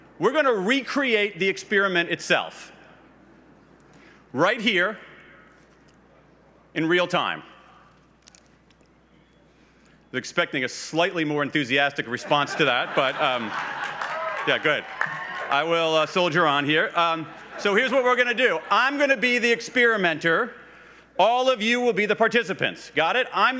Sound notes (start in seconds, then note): 15.1 laughs